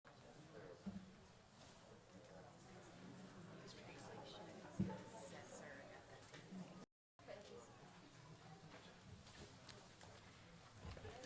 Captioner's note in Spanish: Voces de fondo